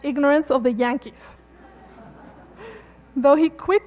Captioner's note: laughter